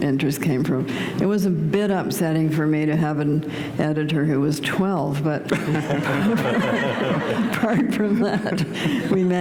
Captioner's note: laughter